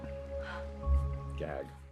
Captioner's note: Anna gasps